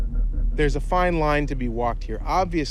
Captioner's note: none